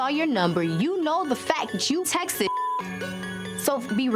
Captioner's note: beep